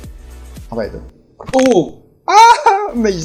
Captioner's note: crack